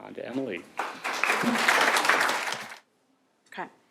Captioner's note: applause